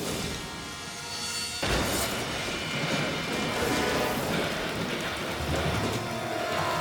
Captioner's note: truck crashes; objects clattering